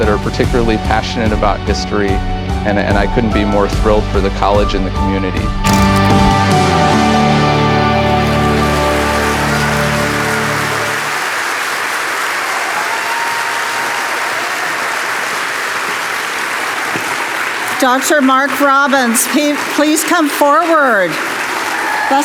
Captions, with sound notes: that are particularly passionate about history. And I couldn't be more thrilled for the college and the community. (gentle music) (audience applauding and cheering) - Dr. Mark Robbins, please come forward.